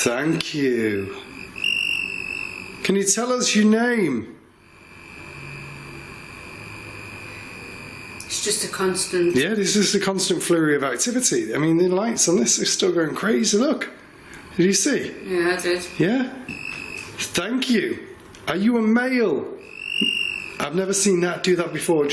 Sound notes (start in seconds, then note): 5.1 device buzzing